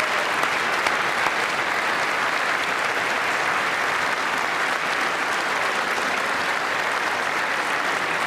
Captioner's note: applause